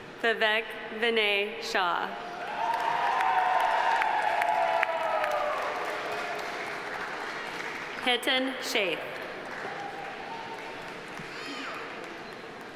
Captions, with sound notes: Vivek Vinay Shah. (audience applauding) (audience cheering) Hiten Sheth.